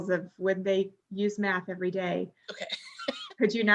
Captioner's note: laughs